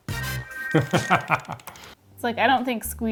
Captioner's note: disco music; laughs